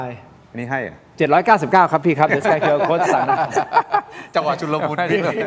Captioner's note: laughs